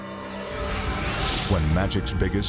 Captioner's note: graphics whooshing